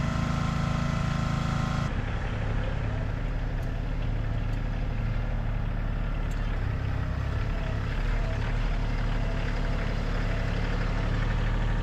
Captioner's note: motor rumbling